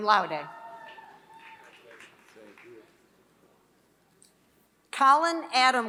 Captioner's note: applause